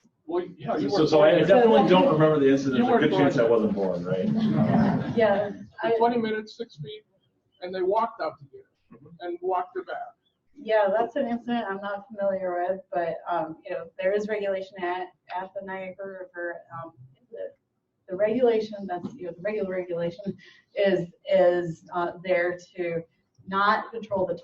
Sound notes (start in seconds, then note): 4.9 participants laughing